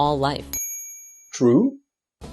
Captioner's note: ding!